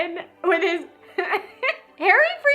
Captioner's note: laughs